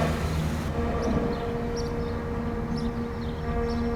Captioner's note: birds chirping